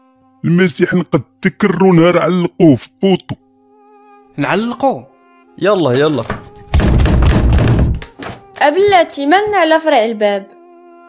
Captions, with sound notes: He couldn't save himself the day they hung him up in pole we should run let go now [someone knocking door hard] Wait, why do you break the door